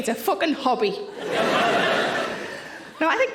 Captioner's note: audience laughing